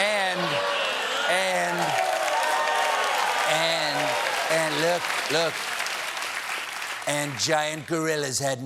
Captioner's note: cheers and applause